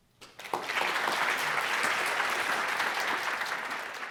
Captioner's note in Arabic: تصفيق